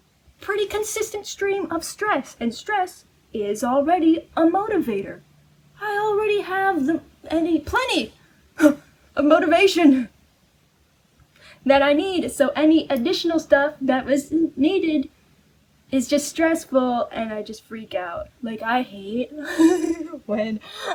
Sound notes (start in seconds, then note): 14.0 stammers; 19.3 laughs